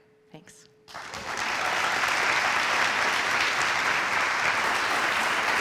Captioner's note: audience applauds